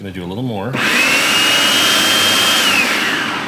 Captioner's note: whirring